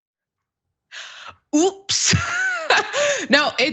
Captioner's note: laugh